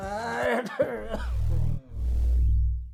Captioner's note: coughing sound